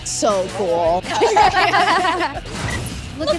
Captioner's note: all laughing